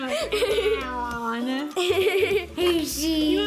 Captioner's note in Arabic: التعتعة